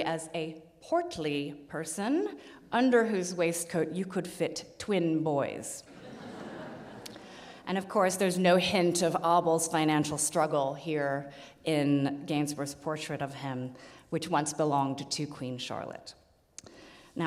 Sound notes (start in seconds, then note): 5.9 audience laughs